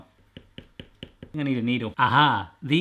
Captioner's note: taps